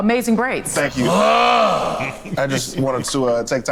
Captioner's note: exclaims